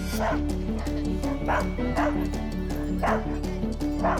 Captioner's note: dogs barking